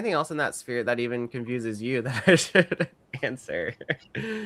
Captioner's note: laughs